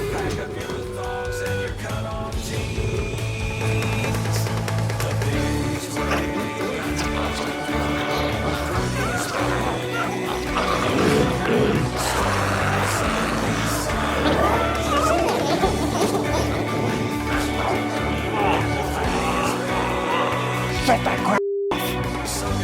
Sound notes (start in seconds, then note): 7.3 glowzies growling